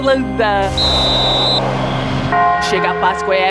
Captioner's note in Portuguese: apito